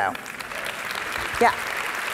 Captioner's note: audience applauding